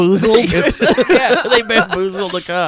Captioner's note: laughs